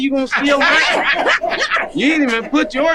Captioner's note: group laughing